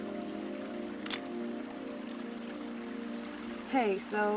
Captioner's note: shutter clicks